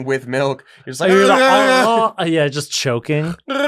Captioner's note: gurgling sounds; gurgling sound